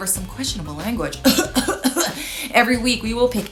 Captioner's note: coughing lightly